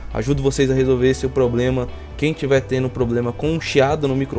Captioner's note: static